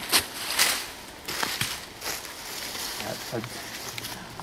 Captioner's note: rock thumps